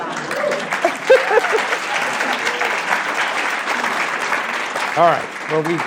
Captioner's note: applause